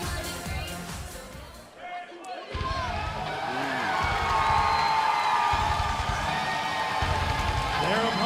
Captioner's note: crowd cheering